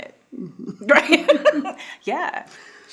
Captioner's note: both laughing